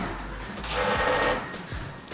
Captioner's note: door bell ringing